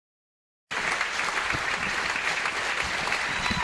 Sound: applause

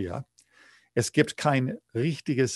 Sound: speaking german

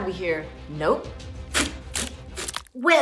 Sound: spider webs shooting

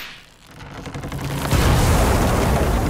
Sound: thudding

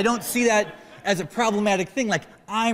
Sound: laughter

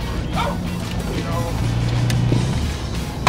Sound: dog barks

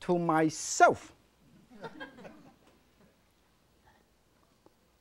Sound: audience chuckles

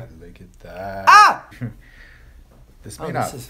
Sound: screams

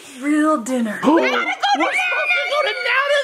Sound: everyone shrieks

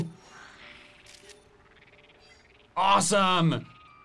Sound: photo snapping

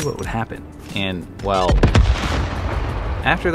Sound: grenade explodes

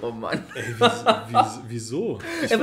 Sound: laughs

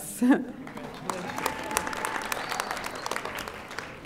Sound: audience applauding

